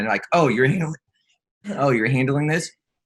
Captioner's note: clears throat